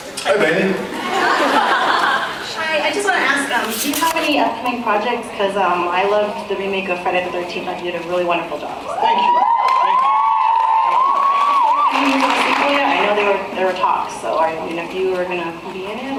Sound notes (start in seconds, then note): 1.0 laughs; 8.8 cheers